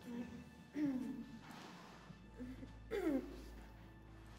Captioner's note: billie groans